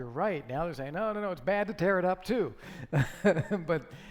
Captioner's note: laughing